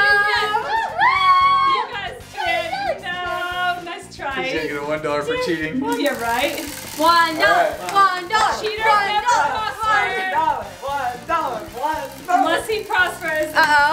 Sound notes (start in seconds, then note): 0.5 shouting; 7.4 chanting